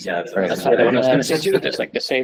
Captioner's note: laughter